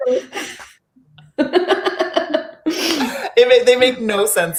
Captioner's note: laughing